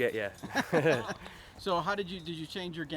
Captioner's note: laughter